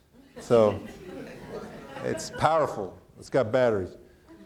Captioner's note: audience laughing